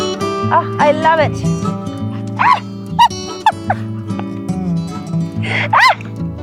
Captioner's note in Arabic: يضحك